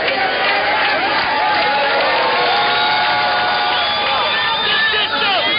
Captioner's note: cheering and applause